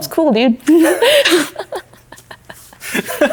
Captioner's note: laughing